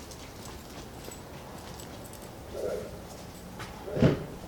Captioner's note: dog barking